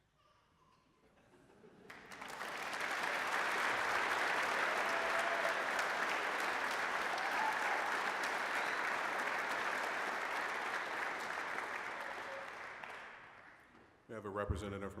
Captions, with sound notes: (applause) We have a representative